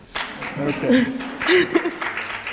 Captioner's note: applause